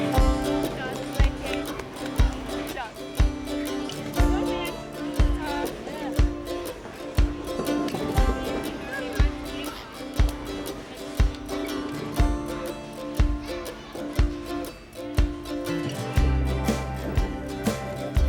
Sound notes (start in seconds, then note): 1.1 Mikaela's friends applaud